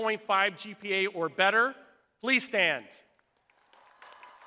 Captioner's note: crowd applauding